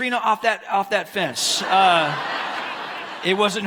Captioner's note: audience laughs